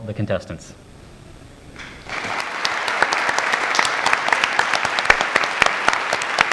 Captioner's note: applause